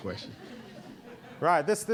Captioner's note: audience laughing